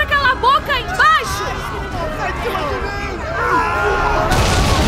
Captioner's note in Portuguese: Pessoas gritando